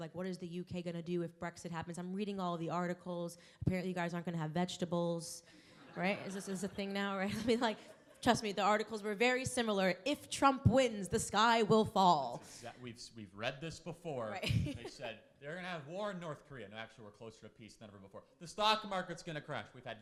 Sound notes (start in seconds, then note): 14.4 laughs